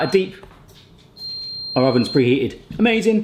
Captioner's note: oven beeps